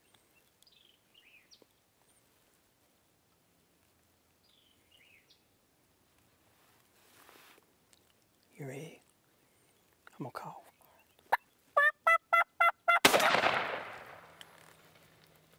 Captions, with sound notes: You ready? I'm gonna call 'em. (turkey calling) (gunshot)